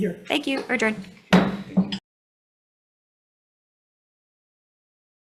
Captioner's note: gavel clanks